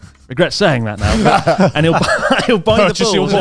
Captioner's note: all laughing